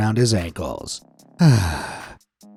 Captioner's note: sigh